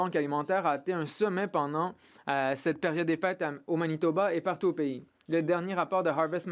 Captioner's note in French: voix de l'interprète